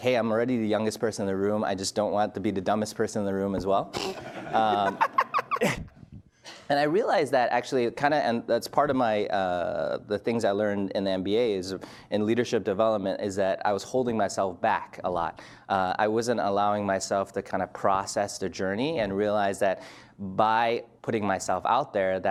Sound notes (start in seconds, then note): 4.0 laughs loudly